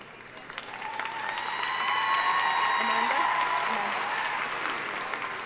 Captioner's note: audience cheering and applauding